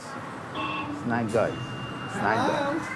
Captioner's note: Interfone tocando